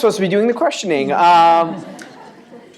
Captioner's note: laughter